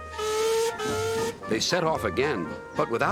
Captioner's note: toots horn